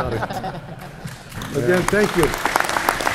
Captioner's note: applause